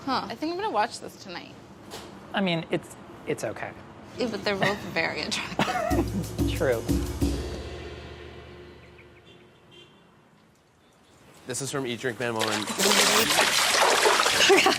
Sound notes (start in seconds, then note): 5.5 laughing; 5.9 upbeat music; 8.7 birds chirping; 12.1 water splashing; 14.3 laughing